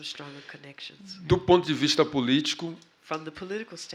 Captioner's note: speaking portuguese